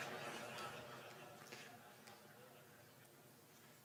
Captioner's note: laughter